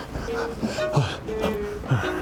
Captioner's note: panting